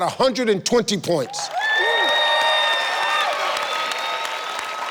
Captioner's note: audience applauding